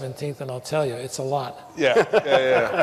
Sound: laughter

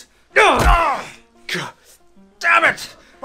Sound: thump

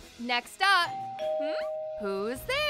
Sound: doorbell

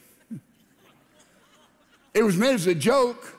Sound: congregation laughing

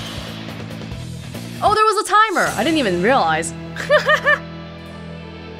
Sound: laughs

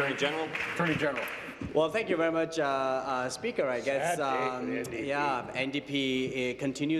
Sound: applause

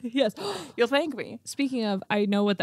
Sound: gasps

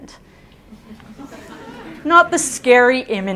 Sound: audience chuckles

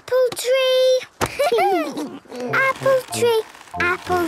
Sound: laughter

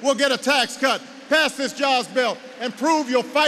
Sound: applause

